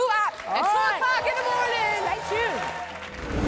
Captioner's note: audience applauding and cheering